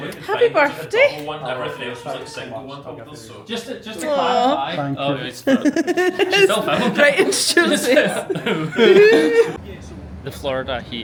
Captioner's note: other random rabble and noises